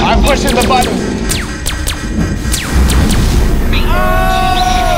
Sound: guns zapping; alarm blaring

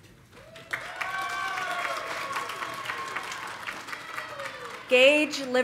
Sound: audience applauding; audience cheering

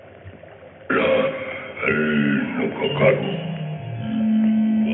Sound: gibberish grunting

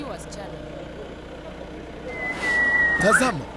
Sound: lewd whistle

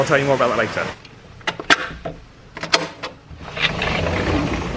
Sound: door latch clicks; door slides open

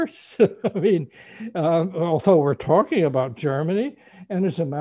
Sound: laughs

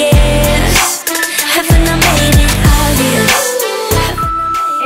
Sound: timer beeping

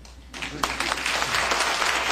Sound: applause

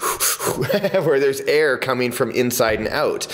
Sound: inhaling and exhaling

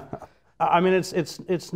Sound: laughter

